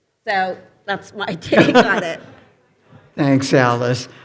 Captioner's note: panelists chuckling